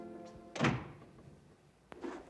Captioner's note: dramatic music; door shuts